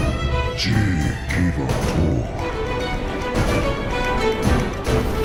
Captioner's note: speaking in foreign language